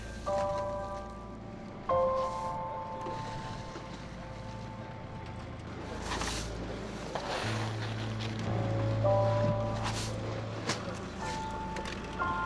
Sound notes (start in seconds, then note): 0.2 gentle music; 5.9 spat rustling